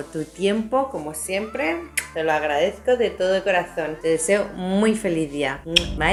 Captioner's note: kiss